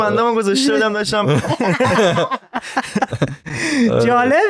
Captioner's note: laughs